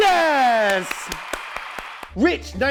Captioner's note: cheers and clapping